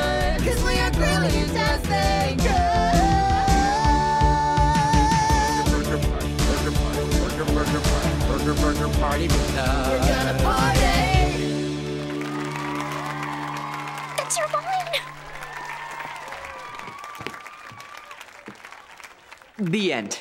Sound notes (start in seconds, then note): 11.9 cheering